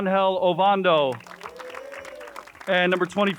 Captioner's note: crowd cheers and applauds